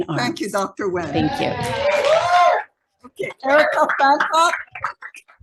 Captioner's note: audience applauding